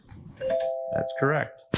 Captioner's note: bell dings